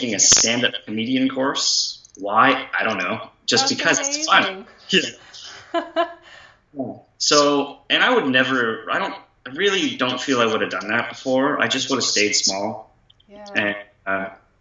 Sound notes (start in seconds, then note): 5.4 laughter